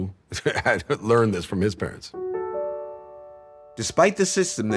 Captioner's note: chuckles